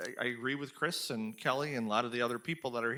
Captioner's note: none